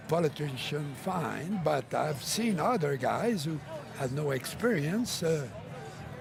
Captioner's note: speaking French